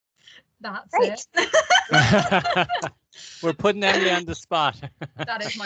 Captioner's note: laughter